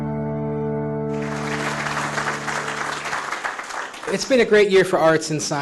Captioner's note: clapping